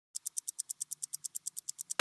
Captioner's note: ticking